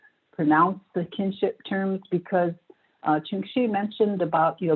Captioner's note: non-english speech